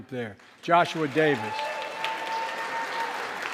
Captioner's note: crowd cheering loudly